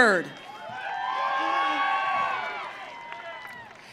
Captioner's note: audience cheering